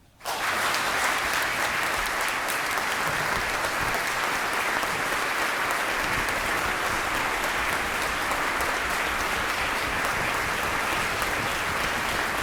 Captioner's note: applause